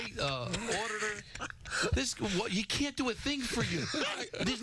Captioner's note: laughing